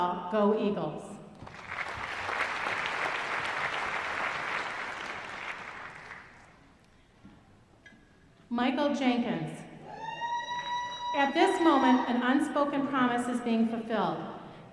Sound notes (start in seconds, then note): 1.4 applause; 10.0 audience cheering